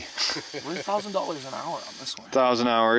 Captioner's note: laughing